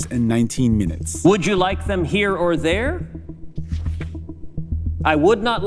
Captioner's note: soundbite of archived recording